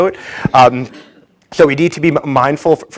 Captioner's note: audience laughs